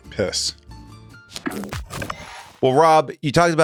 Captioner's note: transition clacks